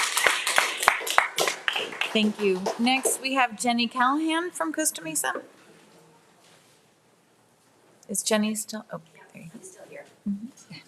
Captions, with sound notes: Take care. (audience applauding) - Thank you. - Next we have Jenny Callahan from